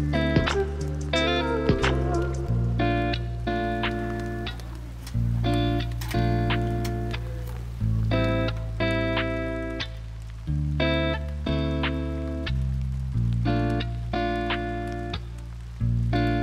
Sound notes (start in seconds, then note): 4.8 camera clicking